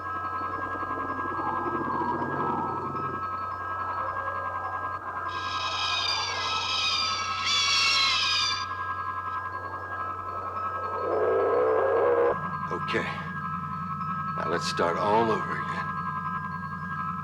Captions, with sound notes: (crystal chiming) (pterodactyls screeching) (dinosaur roaring) Okay. Now let's start all over again.